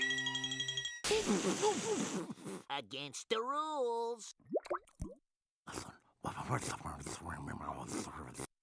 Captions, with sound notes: AGAINST THE RULES. [whispering]